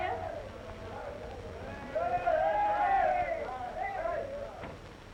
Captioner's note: crowd shouting